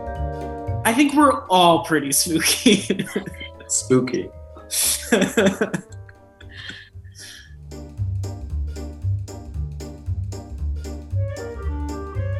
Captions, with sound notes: - I think we're all pretty spooky. (laughs) - Spooky. (group laughs) (playful, cheery music)